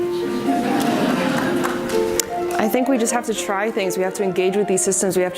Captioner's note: audience laughs